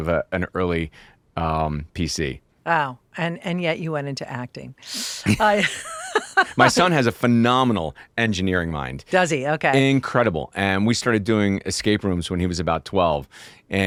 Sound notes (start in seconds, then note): 5.2 Billy and Kris laugh